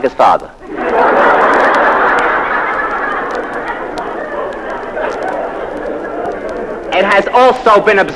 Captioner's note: laugh